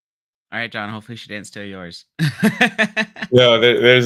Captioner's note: laughs